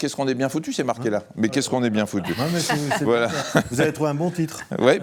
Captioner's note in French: rires